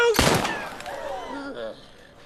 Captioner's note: gunshot